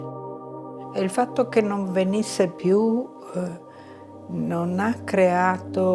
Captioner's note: speaking in foreign language